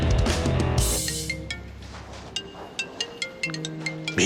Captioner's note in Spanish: Suena un celular